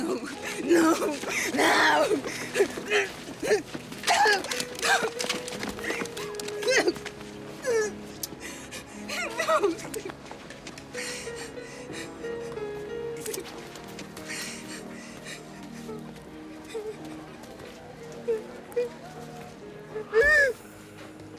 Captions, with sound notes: - No! No! No! No, no! (struggling and crying out) No! (sobbing)